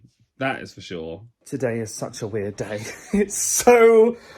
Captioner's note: laughs